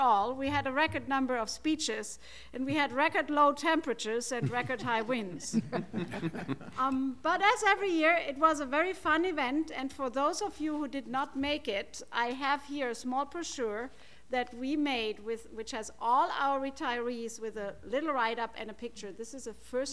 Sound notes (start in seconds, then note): 5.5 laughter